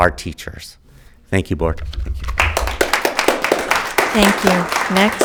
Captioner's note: audience clapping